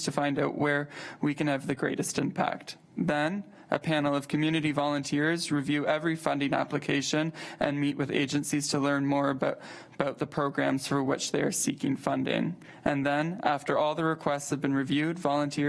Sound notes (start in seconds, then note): none